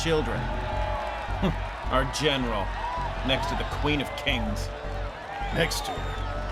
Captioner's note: scoffs